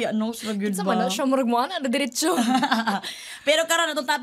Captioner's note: chuckles